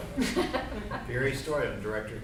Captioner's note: group laughs